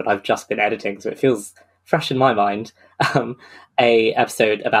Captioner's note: laughs